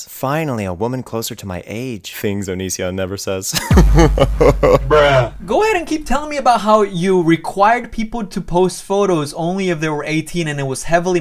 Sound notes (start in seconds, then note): 3.6 laughs; 3.6 bruh sound